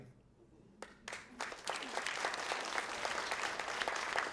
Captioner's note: applause